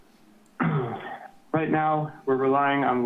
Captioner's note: clears throat